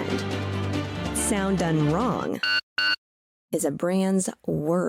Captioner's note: chip reader sound